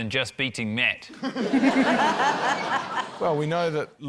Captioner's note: laughter